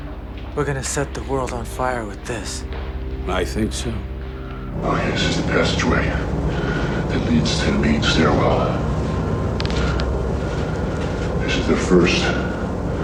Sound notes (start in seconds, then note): 5.1 deep voice speaking